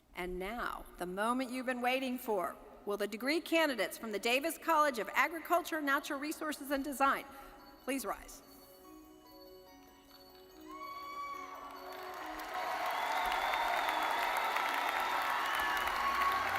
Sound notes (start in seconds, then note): 10.0 soft expectant music; 10.6 audience cheering